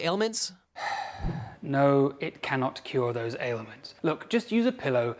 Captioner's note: sighs